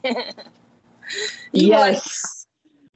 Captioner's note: chuckling